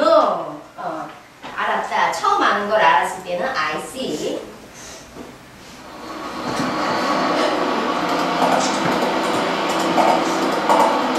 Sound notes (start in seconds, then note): 1.7 speaking foreign language; 6.3 car rustling